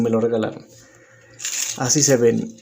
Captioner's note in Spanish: Silencio